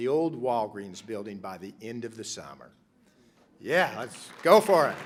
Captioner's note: applause